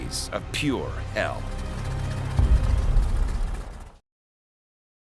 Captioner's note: engine clicking